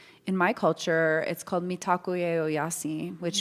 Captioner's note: speaks Lakota